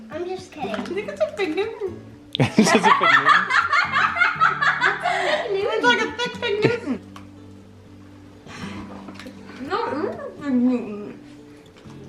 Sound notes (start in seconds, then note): 2.3 chuckles; 2.4 laughs